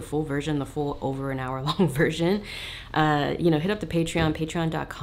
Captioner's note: chuckles